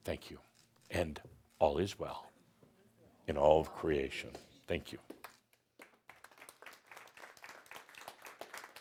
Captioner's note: audience applause